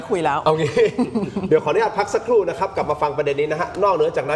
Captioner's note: laughter